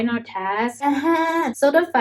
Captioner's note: groaning